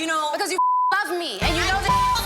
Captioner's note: beep